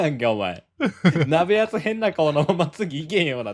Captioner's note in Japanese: 笑い